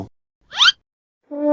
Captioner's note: slip sound effect; trombone of defeat